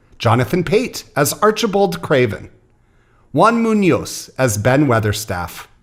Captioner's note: none